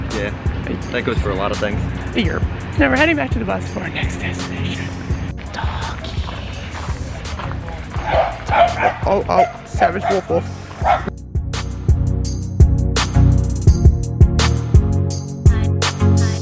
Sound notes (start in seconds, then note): 7.6 dogs bark; 11.9 calm electronic music